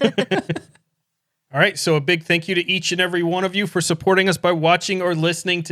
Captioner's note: laughing